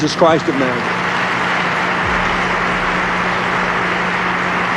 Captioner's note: audience applauding